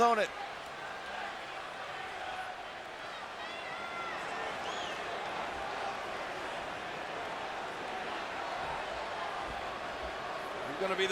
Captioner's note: applause